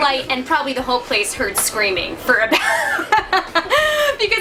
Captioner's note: laughs